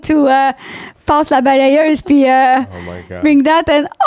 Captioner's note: in french